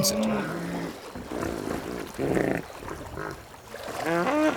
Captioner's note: hippos grunting